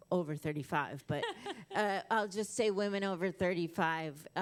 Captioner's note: laughter